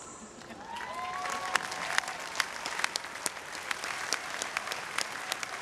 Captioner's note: audience cheering